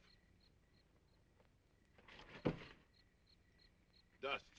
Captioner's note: insects chirping